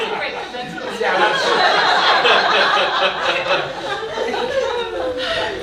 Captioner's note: audience laughing